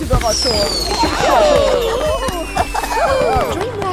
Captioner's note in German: Alle jubeln